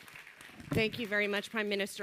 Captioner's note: applause